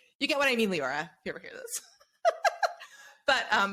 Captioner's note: laughs